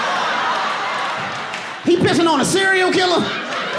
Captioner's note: audience laughing